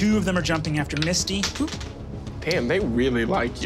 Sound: dice clatters

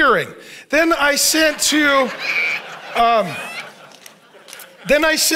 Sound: audience laughs

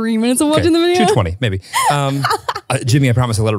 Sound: laughs

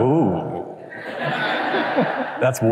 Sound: laughter

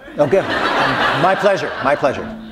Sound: laughter

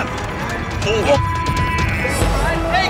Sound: beep

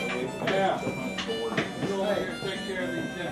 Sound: harmonica music; people chattering

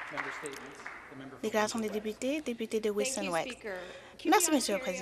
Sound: applause

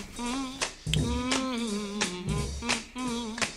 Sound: humming; snapping fingers

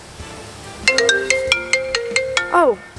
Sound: cell phone rings

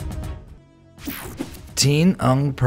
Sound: upbeat music; image buzzing; image swooshing

